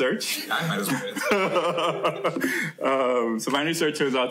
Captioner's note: laughter